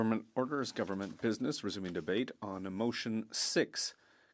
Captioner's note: speaking French